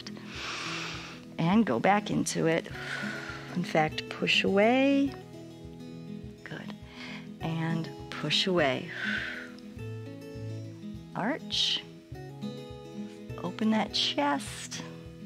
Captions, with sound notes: [inhales] and go back into it. In fact, push away. Good, and push away. [exhales] Arch, open that chest,